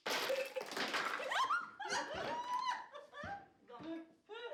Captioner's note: giggling